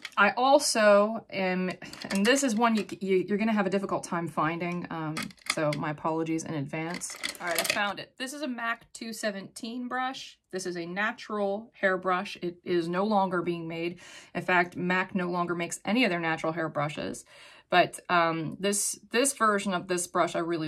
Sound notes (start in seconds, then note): 6.9 makeup brushes clanking